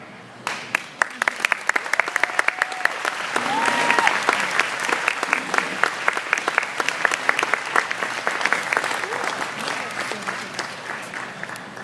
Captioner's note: appaulse